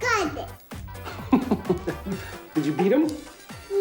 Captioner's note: laughs